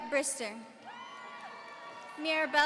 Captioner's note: audience cheering